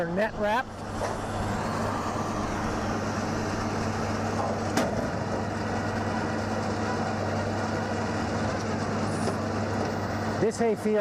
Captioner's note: tractor/baler sound